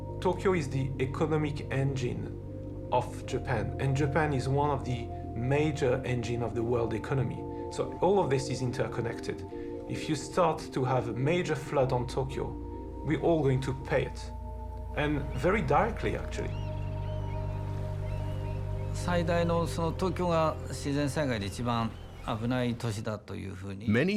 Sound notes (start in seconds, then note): 17.2 birds crying; 20.1 speaking Japanese